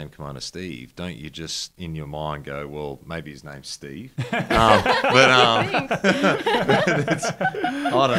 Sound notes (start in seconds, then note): 4.2 laughing; 7.3 everyone laughing